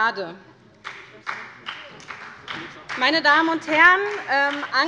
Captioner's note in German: Beifall bei Abgeordneten der SPD